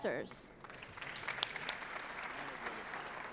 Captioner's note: applause